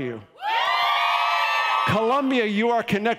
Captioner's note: audience cheering